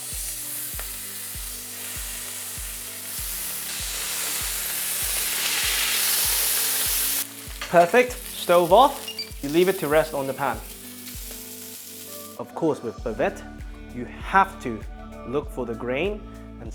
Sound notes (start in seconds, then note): 1.1 sizzling sound